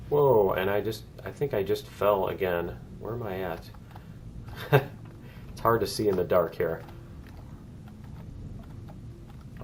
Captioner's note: laughs